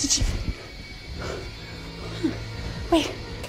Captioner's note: gasps; breathing heavily